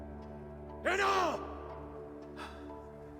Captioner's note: exhales